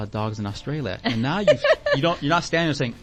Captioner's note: laughing